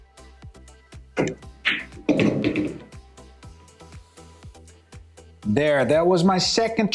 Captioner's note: pool balls clacking and thudding